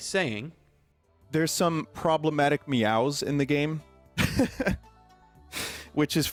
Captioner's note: laughs